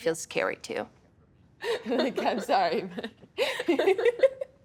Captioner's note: both laughing; laughing